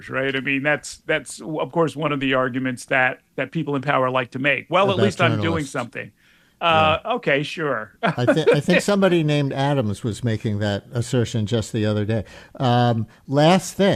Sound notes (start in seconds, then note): 8.0 laughs